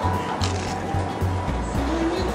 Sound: Crunch

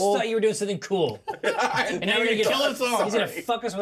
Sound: laughs

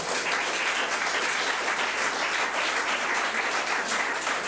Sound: public applauding

